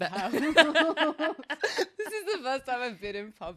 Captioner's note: laughs